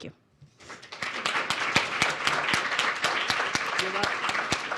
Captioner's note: applause